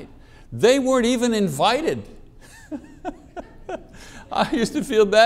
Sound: chuckles

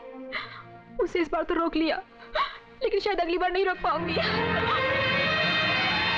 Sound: sobbing

